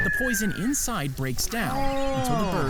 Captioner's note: bird squawking